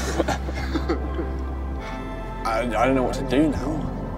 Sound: laughing

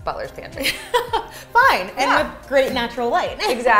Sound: laughs

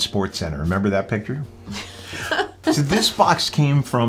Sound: laughs

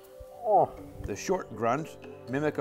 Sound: grunts

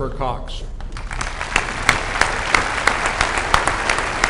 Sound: applause

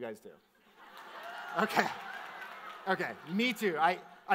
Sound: audience cheers

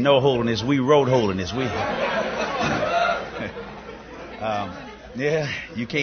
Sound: laughter

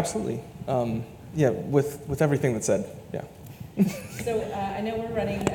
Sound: laughs

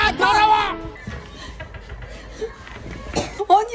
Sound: screams

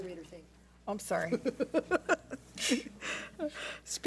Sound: laughs

